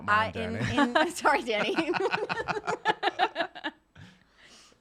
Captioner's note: laughing